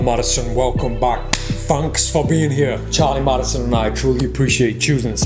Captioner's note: claps